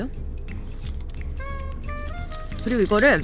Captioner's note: chewing chipmunk